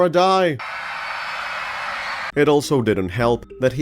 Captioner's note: screams